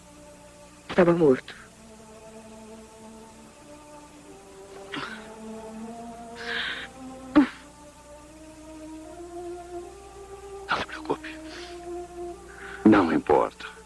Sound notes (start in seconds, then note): 4.6 crying